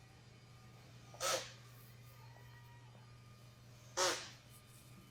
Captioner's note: machine whirring